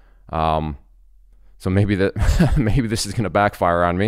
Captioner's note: laughs